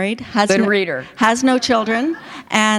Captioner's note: laughter